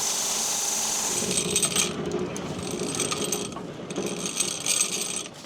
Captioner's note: saw rattling